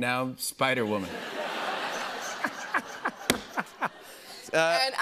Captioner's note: laughter